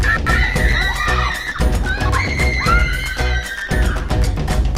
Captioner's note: all screaming; upbeat music